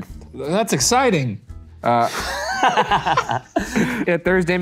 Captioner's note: all laughing